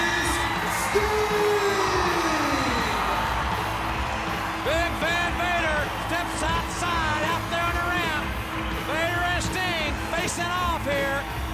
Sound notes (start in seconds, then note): 1.9 audience cheers; 3.7 upbeat music